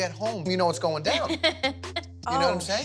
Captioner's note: laughing